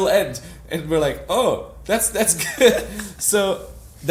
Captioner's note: laughs